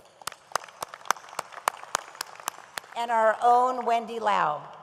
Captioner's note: audience applauds